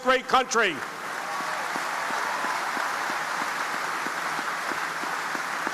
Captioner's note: audience applauding